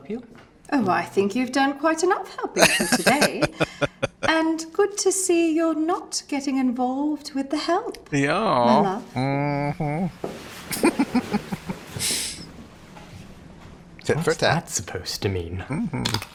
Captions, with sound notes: [Laughing] Yeah. Uh-huh. [Chuckling] Tit for tat. Mm-hmm.